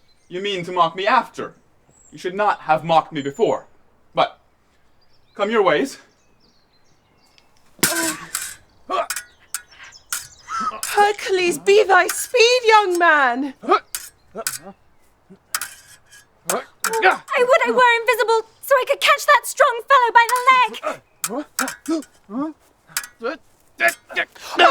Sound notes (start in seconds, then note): 7.8 swords clashing & grunting; 13.8 swords clashing & grunting continues; 20.9 swords clashing and grunting continues